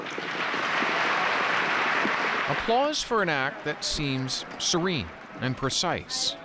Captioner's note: applause